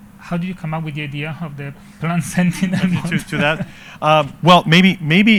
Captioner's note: chuckles